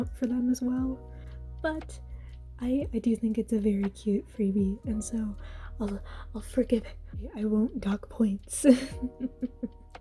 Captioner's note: chuckle